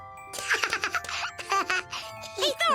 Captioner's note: laughing